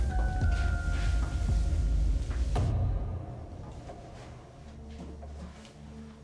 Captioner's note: footsteps plodding; pensive music continues; body rasping; footsteps plodding